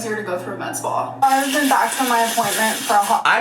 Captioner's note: oil sizzling